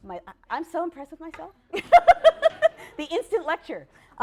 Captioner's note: laughs/laughter